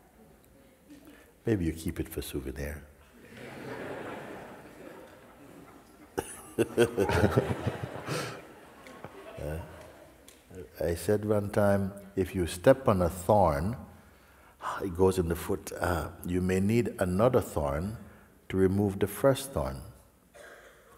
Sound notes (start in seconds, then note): 3.2 laughter